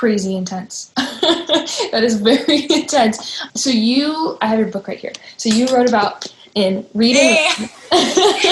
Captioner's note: laughs